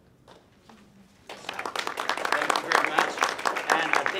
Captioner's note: audience clapping